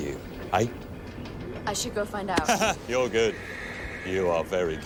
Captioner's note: laughs